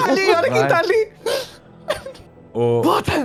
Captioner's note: laugh